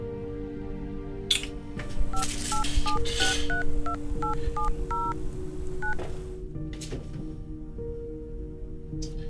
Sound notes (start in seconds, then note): 2.1 keypad bleeping